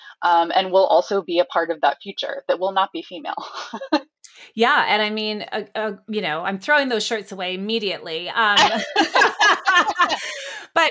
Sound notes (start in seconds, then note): 3.4 laughs; 8.5 both laugh